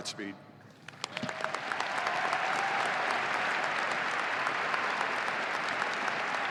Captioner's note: audience applauding and cheering